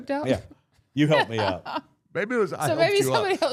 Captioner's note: blue vested woman laughing